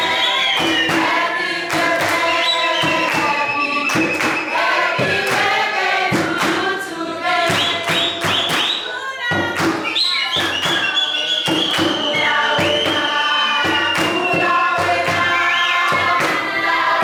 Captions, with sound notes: Happy birthday. (Bird sounds) Happy birthday.